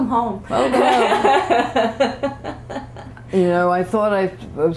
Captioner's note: laughter